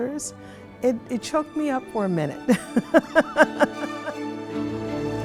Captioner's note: chuckling; lively music